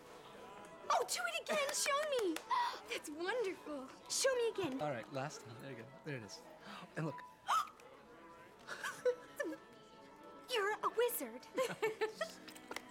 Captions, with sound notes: Oh, do it again! Show me! That's wonderful. - Show me again! - All right. Last time. There you go. There it is. - And look. - [gasps] You're a wizard! [laughs]